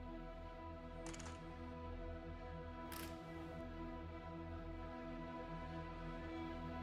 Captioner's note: camera lens clicking; enchanted music